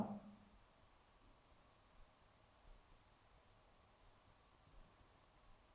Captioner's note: silence